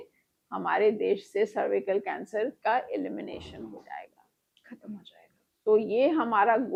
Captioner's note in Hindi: गला साफ़ करने की आवाज़